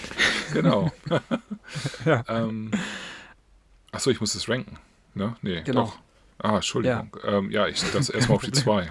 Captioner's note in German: gelächter